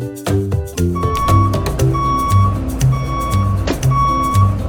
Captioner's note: truck beeping